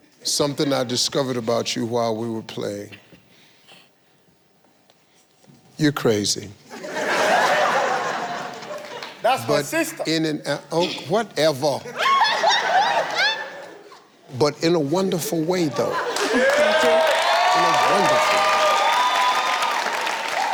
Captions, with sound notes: - Something I discovered about you while we were playing, you're crazy. (audience laughing) - That's my sister. - Oh, whatever. (audience laughing) But in a wonderful way though. - Thank you. (audience cheering) - In a wonderful way.